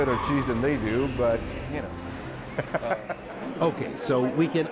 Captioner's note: laughs